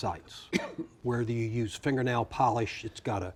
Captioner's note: coughing